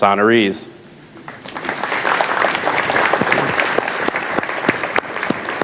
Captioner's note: audience applauds